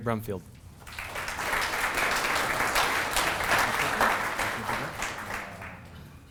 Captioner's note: applause